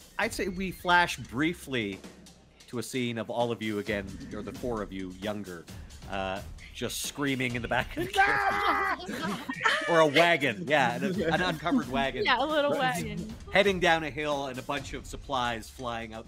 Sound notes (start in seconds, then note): 8.0 Cornette screams